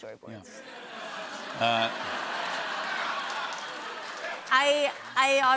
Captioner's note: laughter